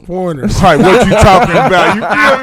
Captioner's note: laughing